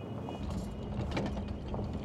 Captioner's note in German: Rumpeln